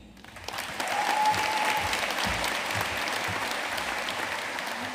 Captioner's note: audience cheering and applauding